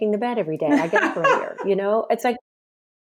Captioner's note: laughs